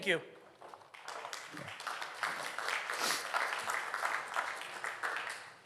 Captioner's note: audience Applauding